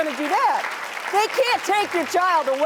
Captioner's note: applause